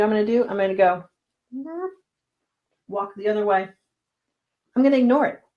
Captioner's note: groaning